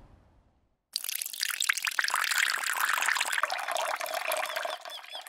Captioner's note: water gurgling; birds chirping; water gurgling